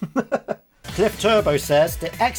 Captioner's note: laughing